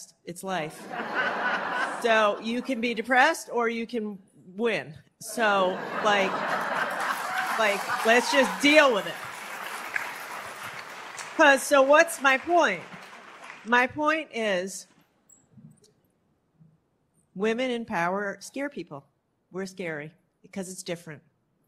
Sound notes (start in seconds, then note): 5.6 laughter; 9.3 applause